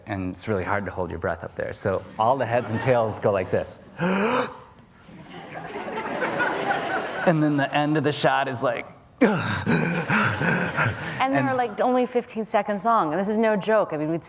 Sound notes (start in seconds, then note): 4.0 inhales deeply; 5.2 audience laughter; 9.2 exhales; 9.6 audience laughter